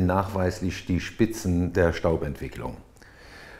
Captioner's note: none